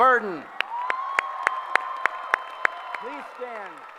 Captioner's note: applause